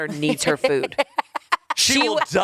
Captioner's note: laughs